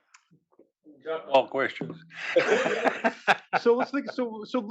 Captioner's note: laugh